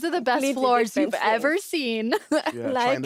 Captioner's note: laughs